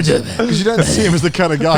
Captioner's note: grunts